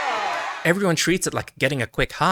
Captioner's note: cheering